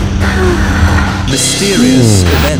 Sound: woman sighs

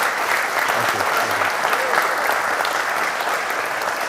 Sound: applause

